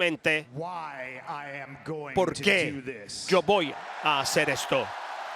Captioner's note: applause